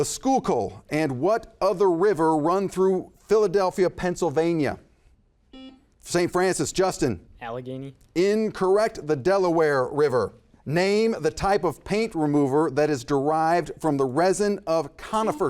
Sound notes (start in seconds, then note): 5.5 buzzer buzzes